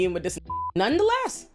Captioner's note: beep